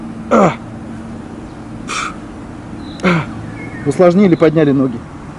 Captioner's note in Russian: звук выдоха